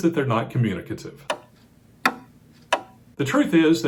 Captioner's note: clock ticking